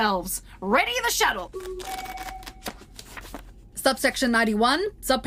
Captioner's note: A tone plays as Computer readies the shuttle